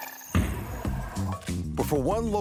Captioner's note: ball banging